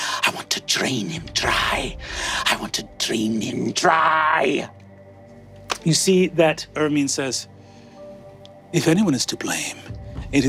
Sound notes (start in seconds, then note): none